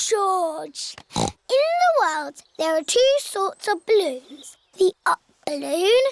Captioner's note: snorts